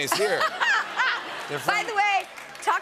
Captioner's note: laughter